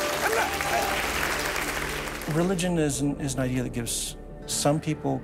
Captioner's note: audience applauds